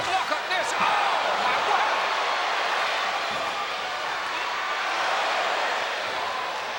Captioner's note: crowd chattering